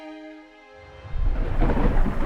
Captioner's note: none